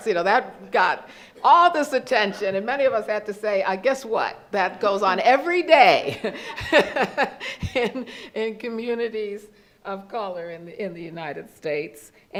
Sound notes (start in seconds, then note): 6.0 laughs